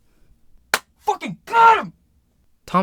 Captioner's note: claps